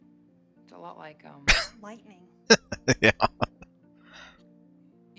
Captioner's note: laughing